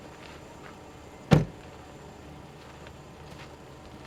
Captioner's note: door thudding